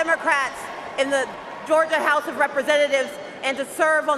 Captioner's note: cheers and applause